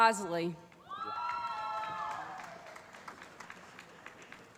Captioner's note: applause